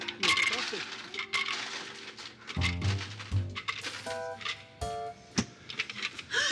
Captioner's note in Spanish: ruido sacando el hielo